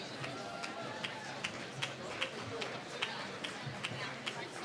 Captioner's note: applause